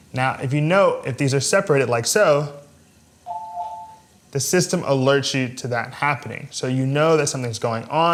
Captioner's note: beeping